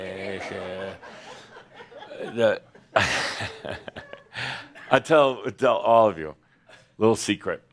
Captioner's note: Adamus chuckles